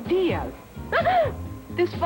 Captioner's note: startled laugh